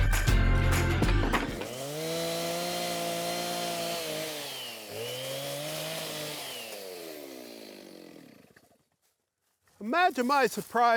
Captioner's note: chainsaw whirring